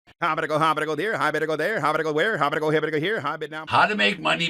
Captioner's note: auctioneer fast talking